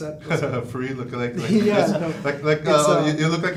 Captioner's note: chuckles